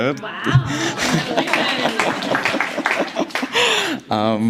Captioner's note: applause, laughter